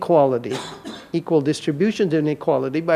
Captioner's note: audience member coughs